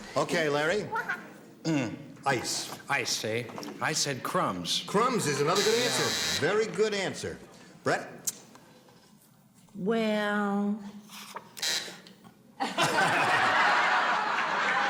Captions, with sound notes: Okay, Larry. Ice. - Ice, eh? I said crumbs. - Crumbs is another good answer, very good answer. Brett? - Well. [buzzing]